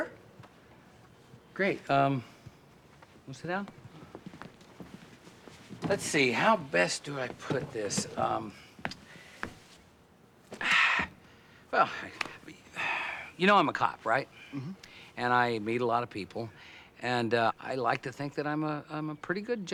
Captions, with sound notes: Uh, sure. Great. Um... want to sit down? Let's see, how best do I put this? Um... (sighs) Well, I-- you know I'm a cop, right? Mm-hmm. And I meet a lot of people, and, uh, I like to think that I'm a--